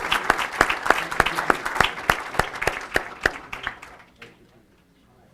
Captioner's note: applause